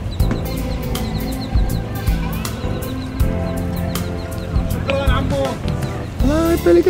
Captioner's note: birds chirping; upbeat music